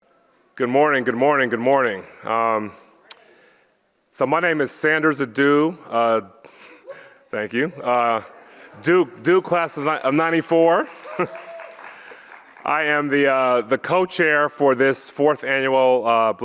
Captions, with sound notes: - Good morning. Good morning. Good morning. So my name is Sanders Adu. (audience member cheers) Thank you. Duke class of '94. (audience claps and cheers) I am the co-chair for this fourth annual